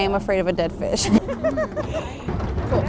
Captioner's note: laughing